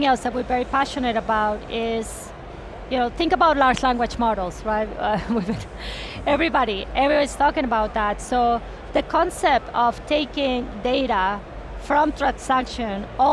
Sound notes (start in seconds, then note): 5.1 chuckles